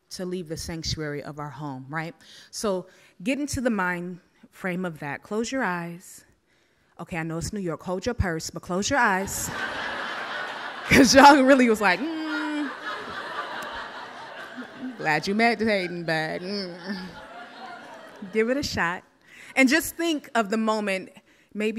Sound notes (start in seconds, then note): 9.5 audience laughs; 12.8 audience laughs; 16.9 groans; 17.4 audience laughs